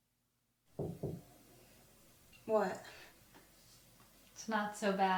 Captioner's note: light knocking